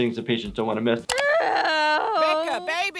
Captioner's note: groans